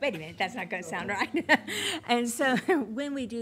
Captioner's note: laughing